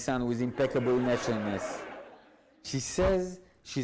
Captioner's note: audience laughs